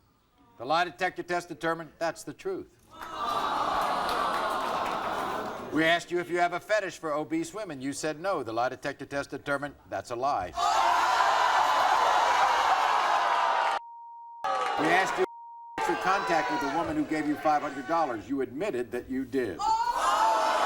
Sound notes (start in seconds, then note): 3.0 audience awing; 10.3 audience gasping; 19.4 audience gasping